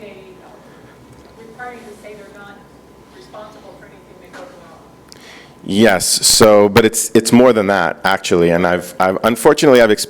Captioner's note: speaking off microphone